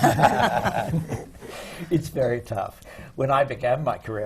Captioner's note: laughter